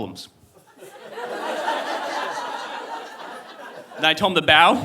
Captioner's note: audience laughing